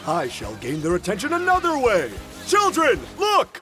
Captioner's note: none